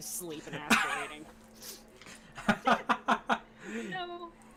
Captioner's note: laughing